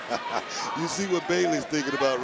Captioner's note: laughs